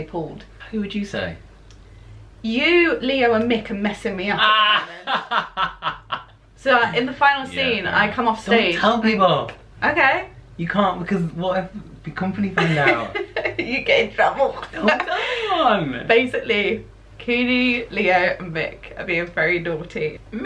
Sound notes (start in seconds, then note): 4.4 laughter